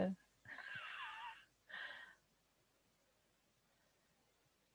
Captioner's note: giggles softly